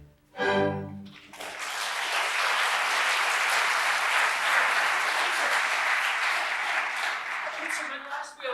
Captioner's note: applause